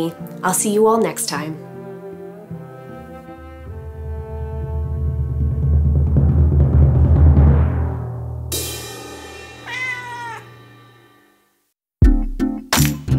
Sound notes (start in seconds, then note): 1.5 classical music; 4.0 drum roll; 9.6 cat's meow; 12.0 mellow music